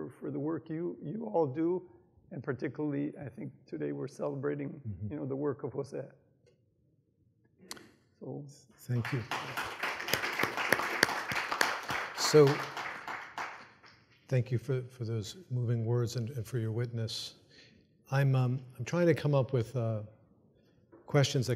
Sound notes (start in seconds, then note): 8.9 audience applauds